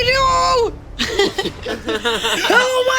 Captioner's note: all laugh